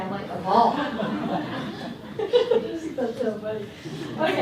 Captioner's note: laughter